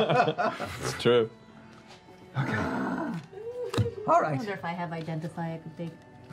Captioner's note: groans